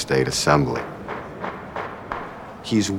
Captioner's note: gavel Pounding